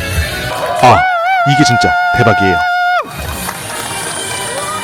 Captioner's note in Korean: 비명